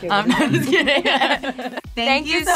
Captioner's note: laughing